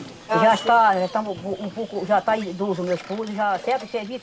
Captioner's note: Portuguese spoken audio